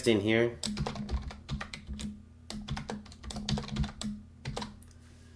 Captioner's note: typing sound